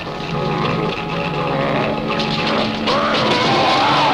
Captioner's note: grunting